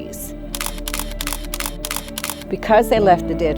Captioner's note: camera shutter snapping